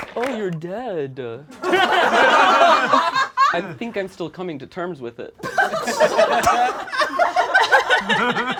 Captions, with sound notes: - Oh, you're dead. (all laugh) I think I'm still coming to terms with it. (all laugh)